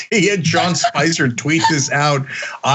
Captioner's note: laugh